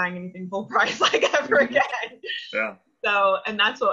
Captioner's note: laughs